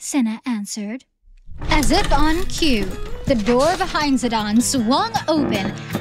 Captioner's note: door opens, creaking floorboards